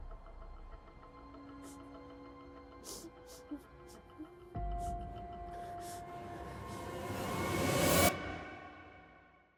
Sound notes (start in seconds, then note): 2.8 Aleks sobbing